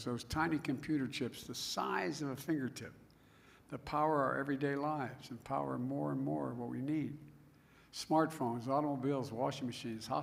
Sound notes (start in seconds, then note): none